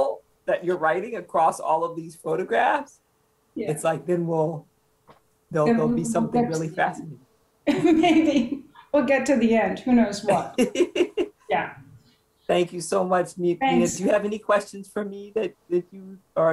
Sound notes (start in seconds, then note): 10.2 chuckling